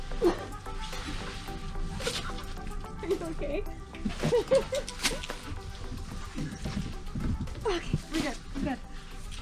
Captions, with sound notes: Are you okay? (laughs) (both talking distantly)